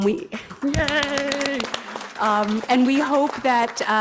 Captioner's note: audience applauds